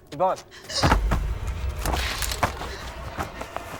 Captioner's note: Yvonne gasps